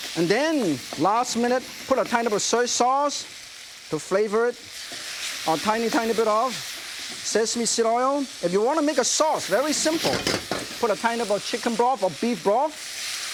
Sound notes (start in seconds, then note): 4.9 beef sizzling